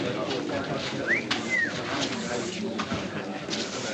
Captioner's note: murmuring